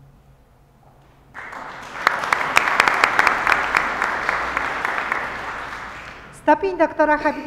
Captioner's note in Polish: oklaski